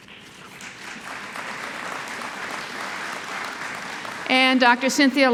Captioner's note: applause